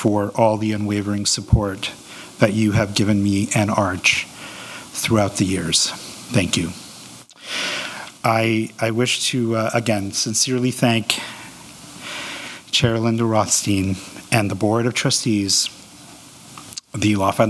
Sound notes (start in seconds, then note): none